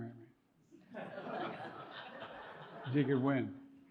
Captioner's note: audience chuckling